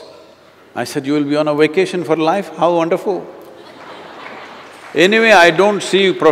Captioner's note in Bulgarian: смях